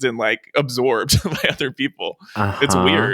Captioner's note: laughs